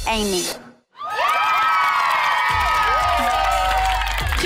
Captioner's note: team cheering